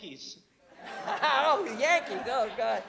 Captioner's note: laughs